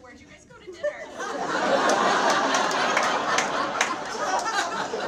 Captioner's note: audience laughs